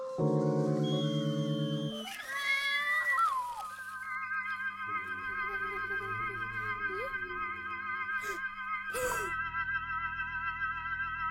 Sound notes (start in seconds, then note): 2.0 child screaming; 3.3 uneasy music; 8.9 child gasping